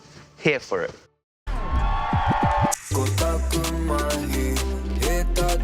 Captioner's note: cheering, record scratching